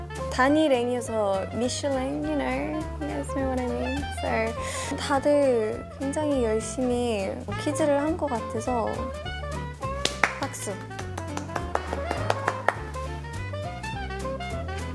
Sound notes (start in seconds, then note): 10.0 A big round of applause